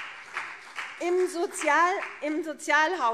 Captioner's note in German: Beifall CDU und BÜNDNIS 90/DIE GRÜNEN